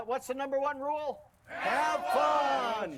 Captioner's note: crowd